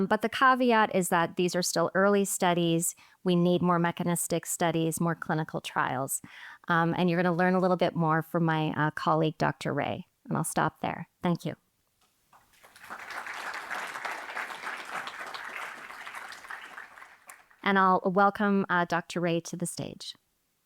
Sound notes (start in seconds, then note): 12.5 audience applauding